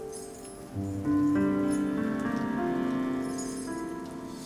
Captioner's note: emotive piano music; metal clinking